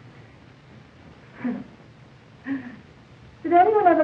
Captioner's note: penelope giggles coyly